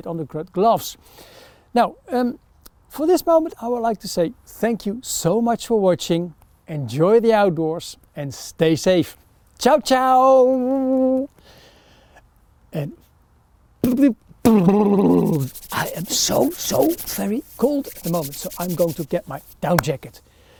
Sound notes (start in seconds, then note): 15.1 hands swooshes together